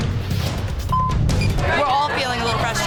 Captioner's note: beep; elapsed time clock beeping